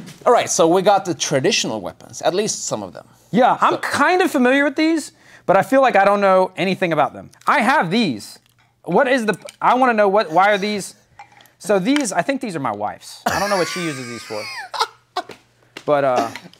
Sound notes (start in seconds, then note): 13.3 laughs